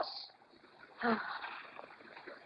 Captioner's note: Leslie sighs